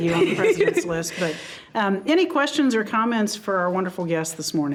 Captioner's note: giggling